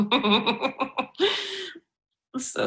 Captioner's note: chuckles